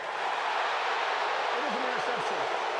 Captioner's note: cheers, applause